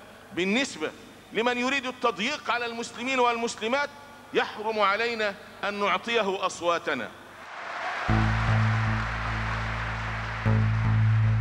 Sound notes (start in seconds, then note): 7.4 applause; 9.7 background music